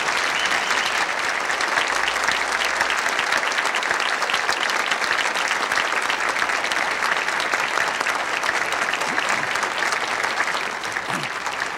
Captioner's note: applause